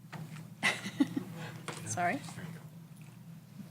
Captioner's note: laughs